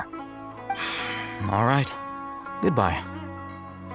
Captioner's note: sigh